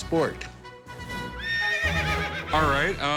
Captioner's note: horse whinny